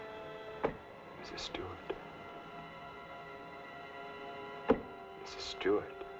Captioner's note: begins Rhythmic Banging